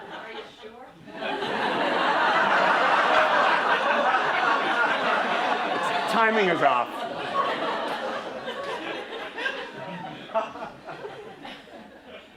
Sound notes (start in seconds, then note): 2.0 laughter